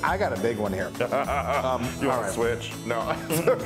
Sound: laugh

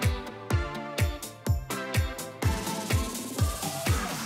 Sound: none

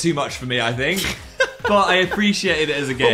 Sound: laughs

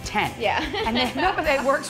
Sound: laughs

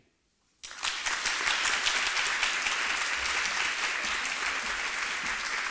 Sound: applause

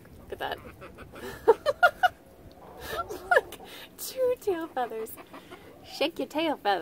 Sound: laughter

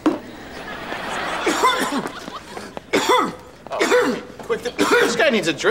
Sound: coughing

